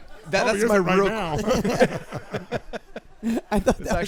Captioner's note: laughs